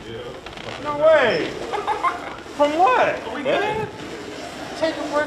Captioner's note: laughs